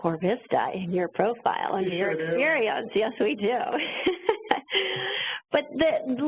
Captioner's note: laughs